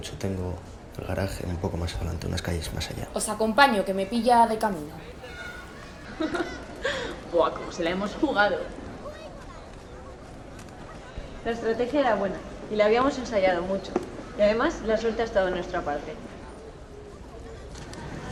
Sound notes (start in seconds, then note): 4.7 laughs